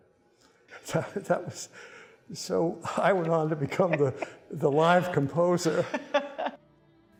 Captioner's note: laughing